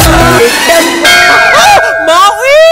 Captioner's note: Bell rings; Manav screams